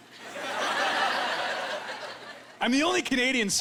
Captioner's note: laughing